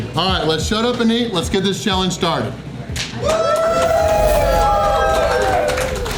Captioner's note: crowd cheering